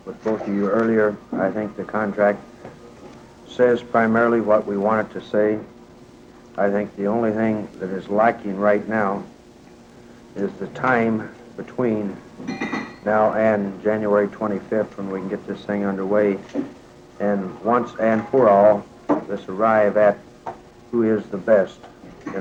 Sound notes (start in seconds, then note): 12.4 kitchenware clinking distantly; 16.5 things shuffling